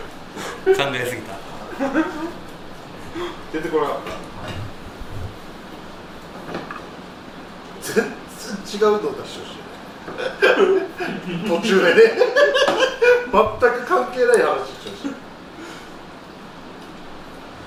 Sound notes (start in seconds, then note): 1.6 laughs; 10.1 laughs; 15.4 laughs